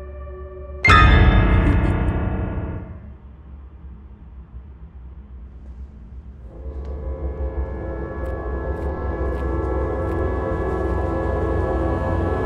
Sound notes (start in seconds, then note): 0.0 suspenseful music; 1.5 laughter; 6.4 suspenseful music